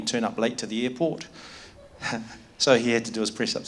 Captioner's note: chuckles